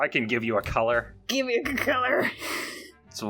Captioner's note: laughs